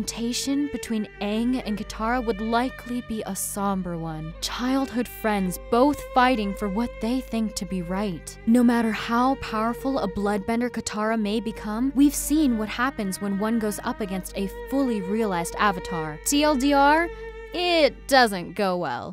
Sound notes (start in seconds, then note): none